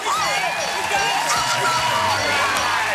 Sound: bell dinging, alarm whooping

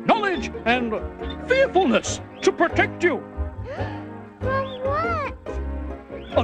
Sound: gasps

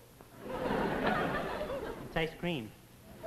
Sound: audience laughs

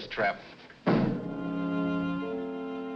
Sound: piano lid thuds

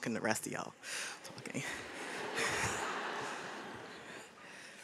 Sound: audience laughs

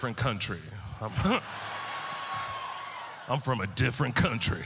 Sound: audience laughter

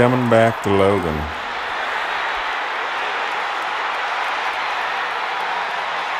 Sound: cheering

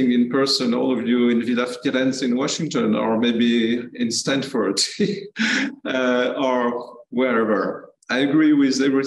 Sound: laugh

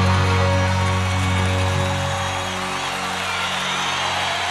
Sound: audience cheering

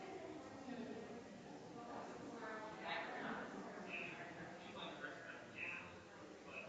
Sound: people chattering distantly continues

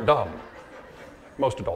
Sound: audience laughing

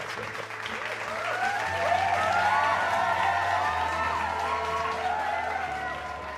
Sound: applause, cheers from the audience

